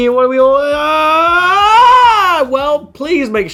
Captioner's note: yelling